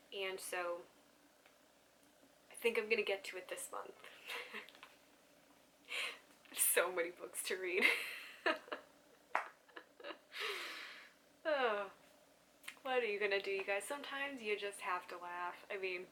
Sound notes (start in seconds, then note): 9.6 laughs